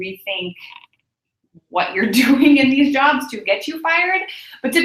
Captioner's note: laugh